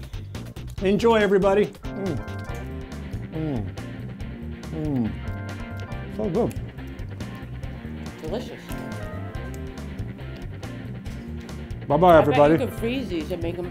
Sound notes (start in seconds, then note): 3.0 yummy sounds